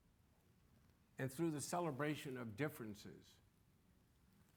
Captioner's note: none